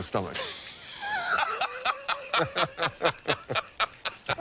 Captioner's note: laughter